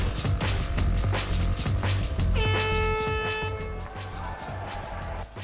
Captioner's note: horn blows